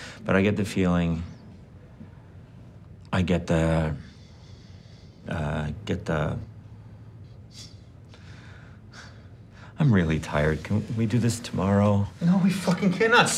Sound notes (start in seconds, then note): 6.6 Donnie breathes heavily